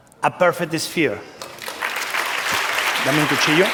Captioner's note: applause; spanish